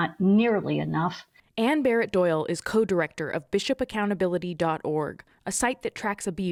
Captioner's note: voice-over